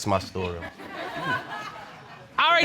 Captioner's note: audience laughing